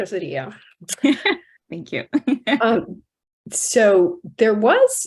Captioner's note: laughs